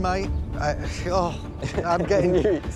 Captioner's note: stammers; chuckling